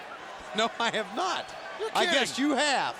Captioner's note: laughs